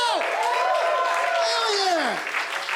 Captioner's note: cheering; applause